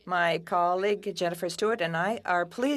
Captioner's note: speaking French